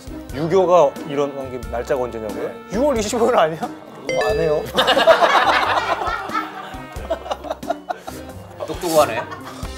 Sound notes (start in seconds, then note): 6.9 laughing